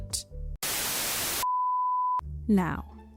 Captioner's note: static